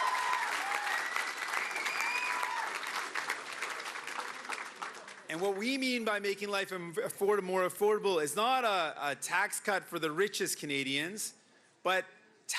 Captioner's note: cheering and Applause